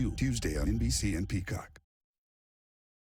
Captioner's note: wind howling